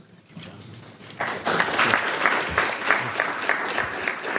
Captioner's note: applause